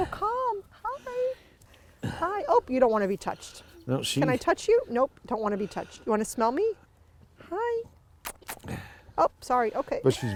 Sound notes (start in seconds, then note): 8.2 smooches; 10.1 chuckles